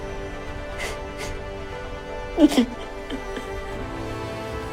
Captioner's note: Eleanor cries